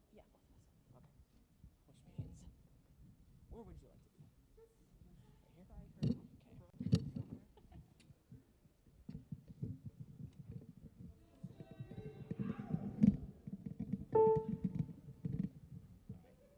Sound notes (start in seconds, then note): 7.1 laughs; 14.1 piano key press